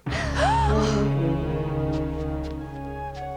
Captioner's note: girls gasp